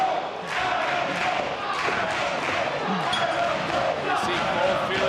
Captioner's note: audience chanting "adam cole"